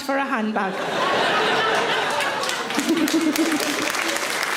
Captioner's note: audience laughing; audience applauding